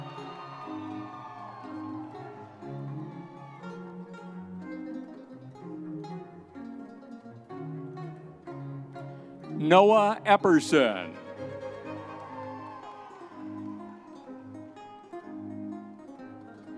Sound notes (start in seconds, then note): 0.0 audience cheering; 1.5 triumphant music; 13.0 triumphant music